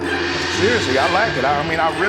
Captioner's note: gong rings